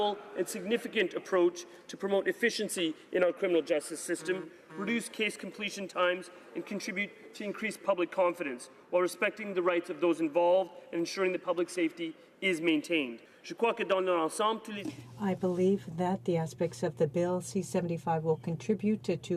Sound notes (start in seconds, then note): 17.2 speaking in French